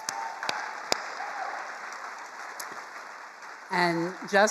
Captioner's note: attendees applauding